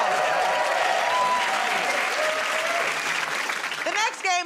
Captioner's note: cheers and applause